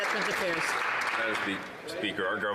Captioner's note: some Applause